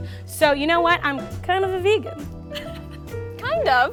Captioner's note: laughs